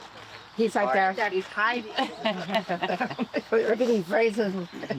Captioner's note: laughs